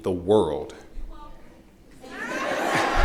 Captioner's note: laughter